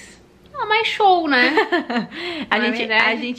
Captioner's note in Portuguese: Risos